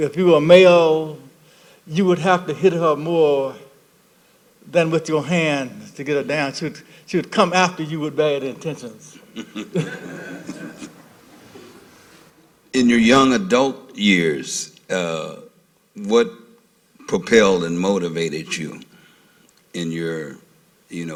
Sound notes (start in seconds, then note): 9.2 laughter